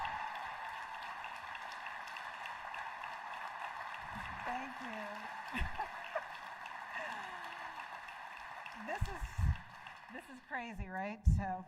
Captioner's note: cheering and applause; laughter; cheering and applause